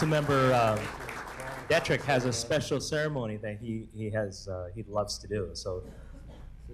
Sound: applause

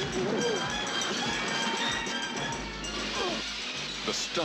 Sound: screams

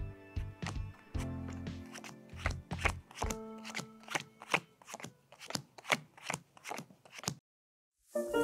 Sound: cards slapping on table; upbeat classical music playing

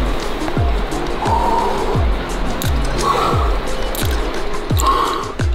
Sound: exhales deeply

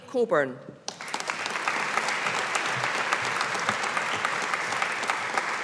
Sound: audience applauding

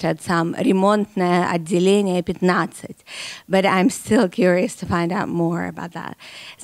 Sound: speaking in Russian

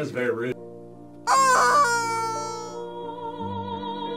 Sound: chicken squeals

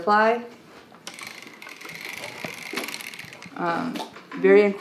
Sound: wheels clicking

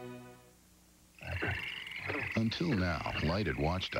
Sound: nocturnal sounds - frogs, crickets, other insects

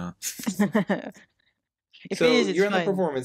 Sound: laughing

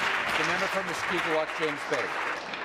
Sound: applause

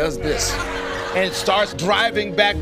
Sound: audience laughing

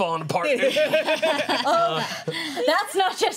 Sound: laughter

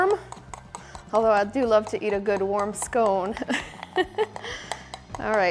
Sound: laughs

